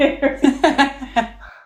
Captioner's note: laughing